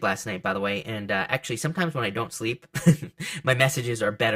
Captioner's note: laughs